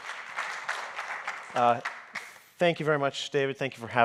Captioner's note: audience applauding